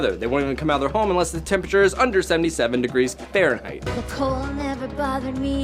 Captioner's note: none